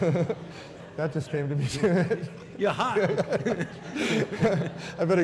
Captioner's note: laughter